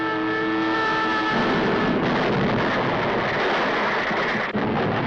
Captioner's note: explosion booms